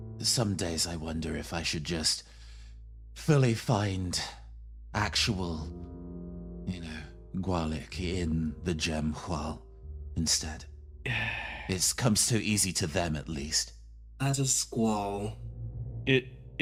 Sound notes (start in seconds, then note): 11.0 Katarip Sigh